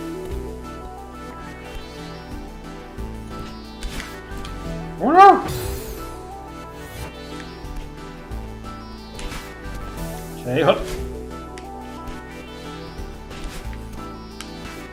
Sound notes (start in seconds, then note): none